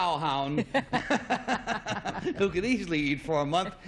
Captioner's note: laughter